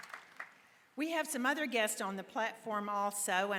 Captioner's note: applause